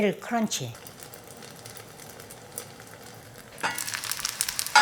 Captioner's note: food sizzling